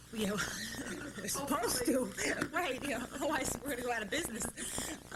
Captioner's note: laughter